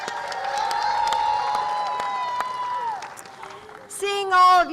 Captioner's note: applause